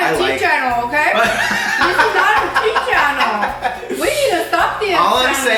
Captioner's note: laughs